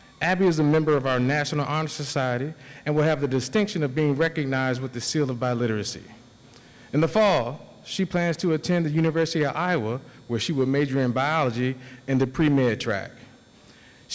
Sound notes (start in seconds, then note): none